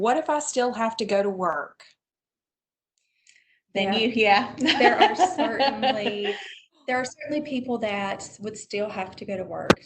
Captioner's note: laughter